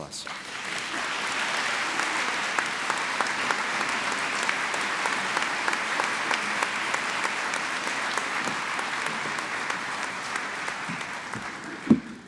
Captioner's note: applause